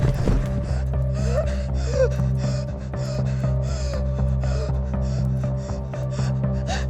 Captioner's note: gun bangs; tense music; Andrea gasping